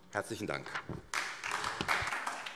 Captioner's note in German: Beifall SPD